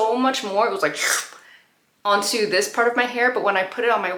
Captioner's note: slurp